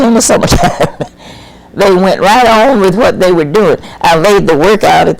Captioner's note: laughs